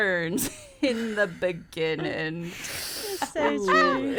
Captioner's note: laughing